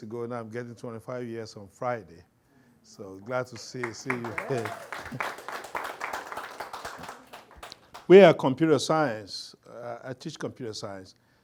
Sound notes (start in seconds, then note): 3.4 audience applauds